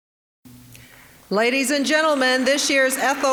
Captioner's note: applause